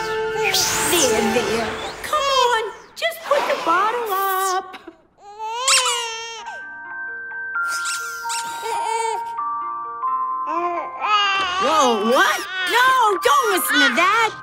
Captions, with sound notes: There, there. Come on, just put the bottle up. [crying, squeaking] [soft music playing] [squeaking] [soft music playing] [babbling] Whoa. What? No, don't listen to that.